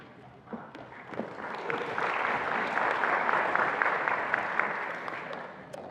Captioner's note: attendees applauding